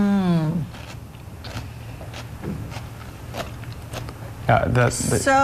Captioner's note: chewing sounds